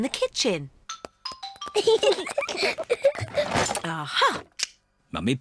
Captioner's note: peppa and george giggling